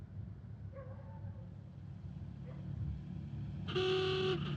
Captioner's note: dog barking; horn honks